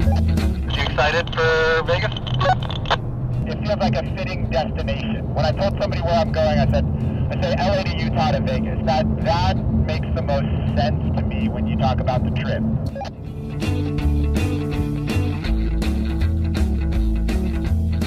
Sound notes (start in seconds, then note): 0.0 beep; 12.9 beep; 13.8 upbeat music